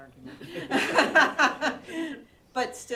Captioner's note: laughter